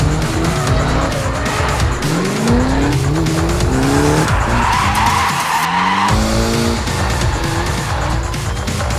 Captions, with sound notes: eventually taking home first prize. (engines rev)